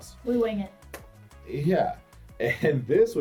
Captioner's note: claps